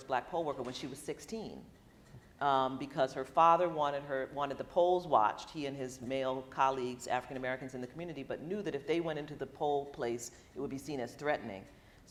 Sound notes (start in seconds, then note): none